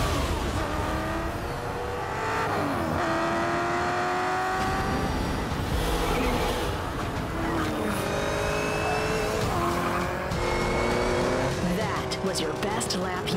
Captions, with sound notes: [ENGINE BUZZING] That was your best lap yet.